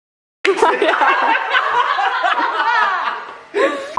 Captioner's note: laughter